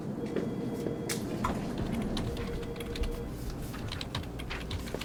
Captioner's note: office sound fx, typing